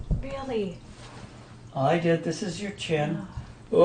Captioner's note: voiceover